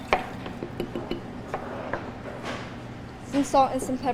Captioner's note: vinegar bottle glugs